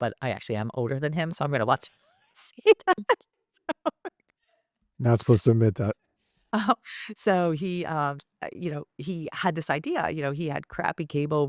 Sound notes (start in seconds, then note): 3.7 laughing